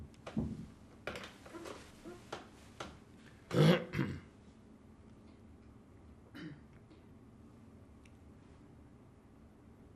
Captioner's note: pauses 12 seconds